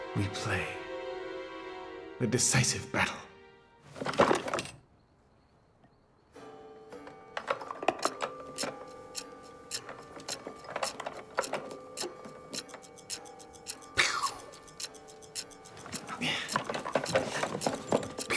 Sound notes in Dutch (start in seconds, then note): 3.9 doos kleppert; 6.4 klokgelui; 7.0 stukken kletterend; 8.0 klok tikt